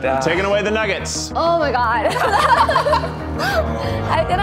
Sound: laugh

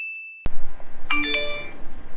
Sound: message notification

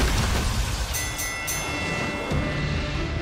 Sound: bell dings

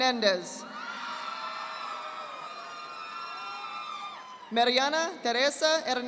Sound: audience applauding

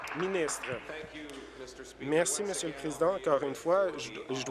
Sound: applause

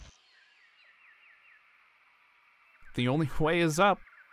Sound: birds chirping

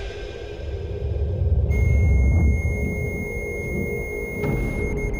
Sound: beeping

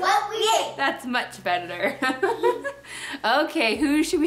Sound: laughs

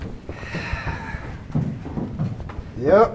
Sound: deep Sigh

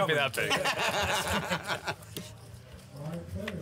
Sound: laughing

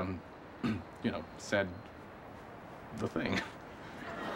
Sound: clears throat

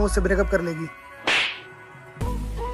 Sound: le smack

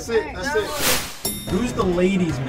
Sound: elevator dings

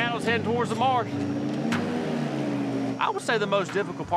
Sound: motor whirring

